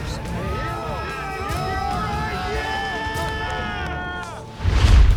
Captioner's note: crowd cheering